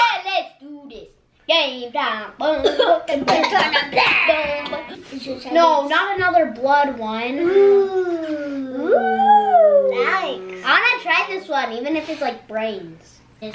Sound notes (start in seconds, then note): 2.5 sings; 2.6 coughs